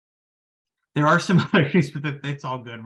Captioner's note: laughing